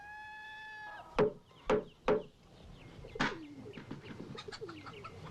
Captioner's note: rooster crowing; wood knocking; chicken clucking